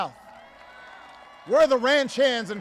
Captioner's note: applause